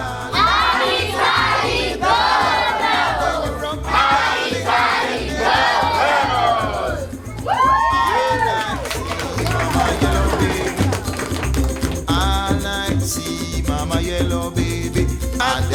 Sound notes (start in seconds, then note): 0.1 speaking in foreign language; 7.4 cheering; 7.4 applauding